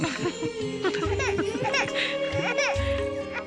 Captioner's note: baby Crying